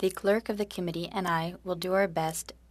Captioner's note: speaking french